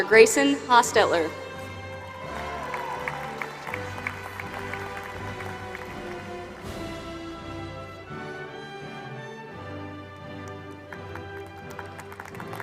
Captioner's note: applause